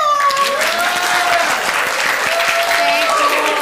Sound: people clapping, cheering

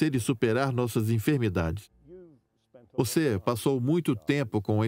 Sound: voiceover

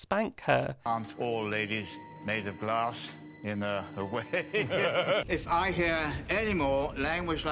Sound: laughter

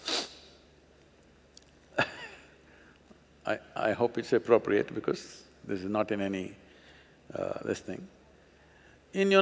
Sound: laughs

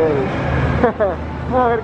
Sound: chuckles

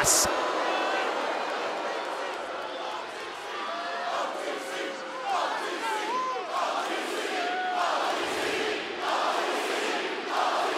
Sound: applause

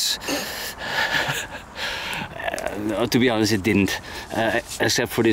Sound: laughs

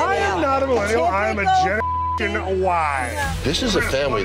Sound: beeping

